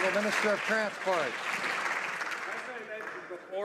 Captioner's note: some Applause